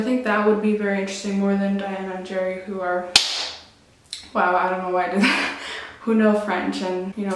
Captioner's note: claps once